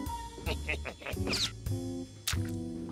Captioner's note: chuckles